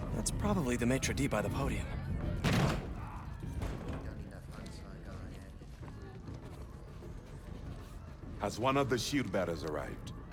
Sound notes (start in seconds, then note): none